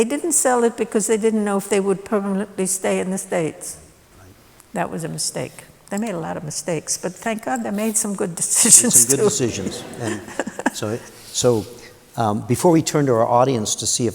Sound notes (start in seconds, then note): 8.6 laughter